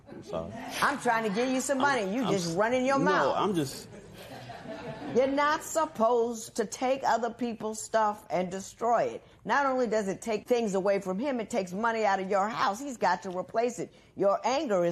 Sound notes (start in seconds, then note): 3.9 laughter